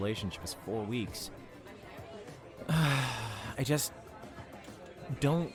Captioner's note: sighs